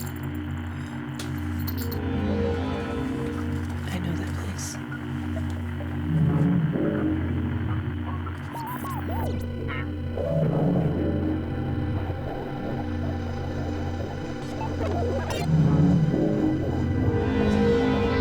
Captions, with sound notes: I know that place. [rhythmic beeping continues]